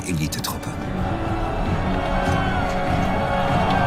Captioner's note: all screaming and exclaiming